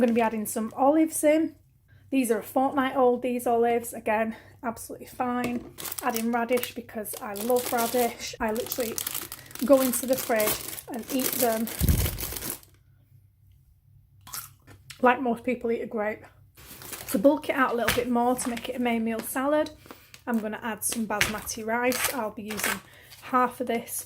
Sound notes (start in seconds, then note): 11.7 crunch